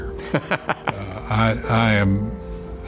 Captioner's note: laughs